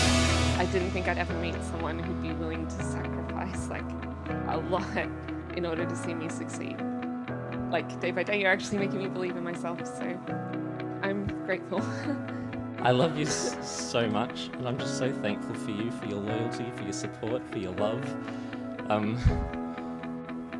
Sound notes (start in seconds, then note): 11.7 chuckles nervously